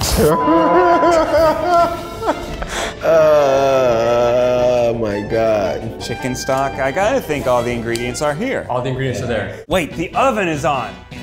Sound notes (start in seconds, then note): 0.0 beep; 0.1 both laughing